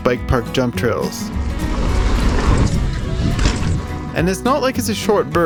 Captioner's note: bike scraping